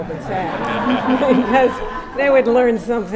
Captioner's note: laughter